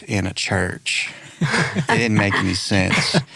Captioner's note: laughing